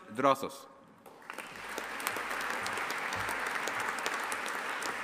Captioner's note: audience applauding